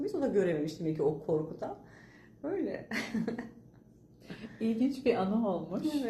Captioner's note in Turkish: kahkaha